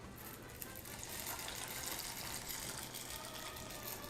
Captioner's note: pasta rustling